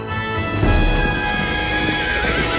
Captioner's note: neighing